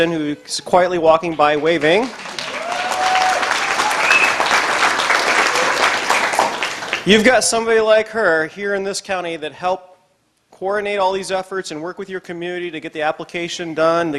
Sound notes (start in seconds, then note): 1.7 audience applause